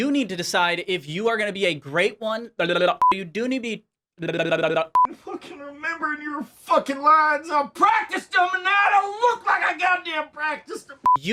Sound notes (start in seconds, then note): 2.6 quick blabbering